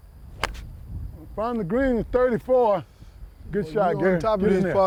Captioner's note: sound of club hitting ball